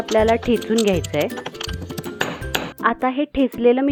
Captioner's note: mixure being crushed